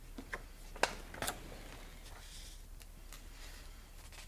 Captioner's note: page crinkling